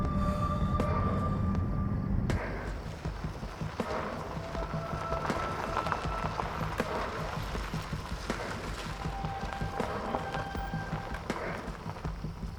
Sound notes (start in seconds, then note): 2.3 stirring music continues; 3.1 gravel scrunching